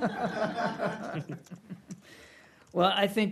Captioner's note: laughter